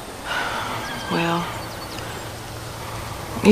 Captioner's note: sighs